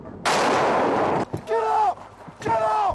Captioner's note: tank exploding